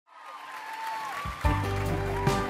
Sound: audience applauds

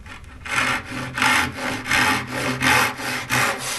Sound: sound of sawing

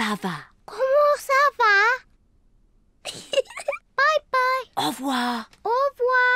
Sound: giggles

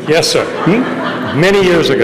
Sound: laughter

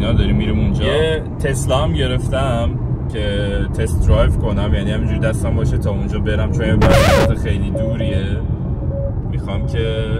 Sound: beep sound

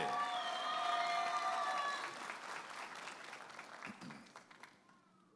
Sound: audience applauding and cheering

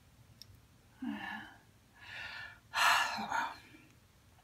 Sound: gasps

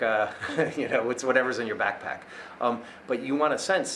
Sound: laughs

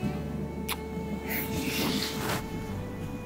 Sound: kissing

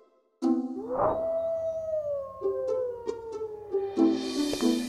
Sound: werewolf howls

